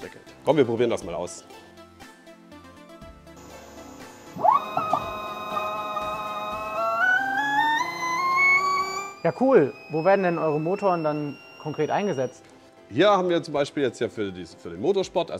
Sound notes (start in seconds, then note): 4.3 noise, revving up electric motor